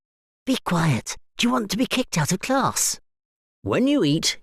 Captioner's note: whisper